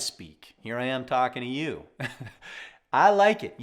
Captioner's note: laughs genuinely